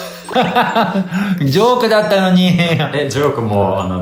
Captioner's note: laughs